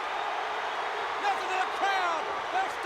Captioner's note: crowd Cheering